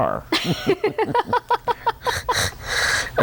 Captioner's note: laughter